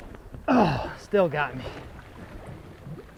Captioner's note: groans